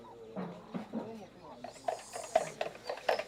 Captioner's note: indistinct chatter